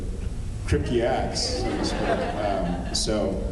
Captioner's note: laughs